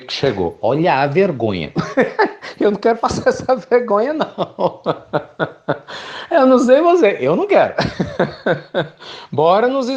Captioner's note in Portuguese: Risos